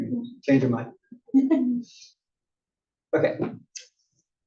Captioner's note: laugh